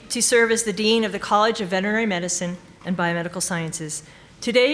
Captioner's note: none